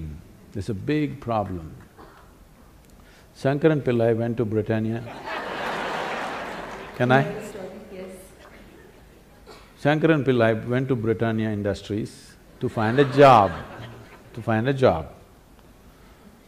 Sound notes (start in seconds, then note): 5.1 laughter/Applause; 5.1 笑聲/掌聲; 12.7 laughter; 12.7 笑聲